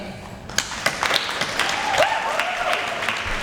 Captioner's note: applause